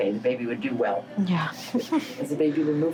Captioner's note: laughs